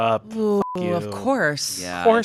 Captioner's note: beep